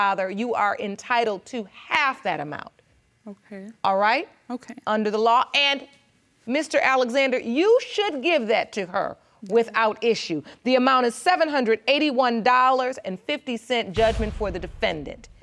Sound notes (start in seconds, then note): none